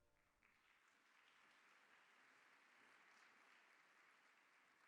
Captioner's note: audience clapping